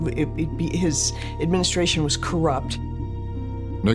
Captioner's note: stammers